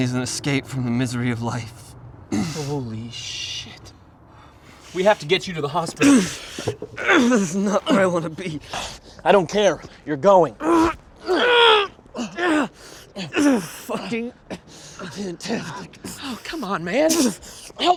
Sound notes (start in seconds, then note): 6.0 Mark grunting; 10.5 both grunting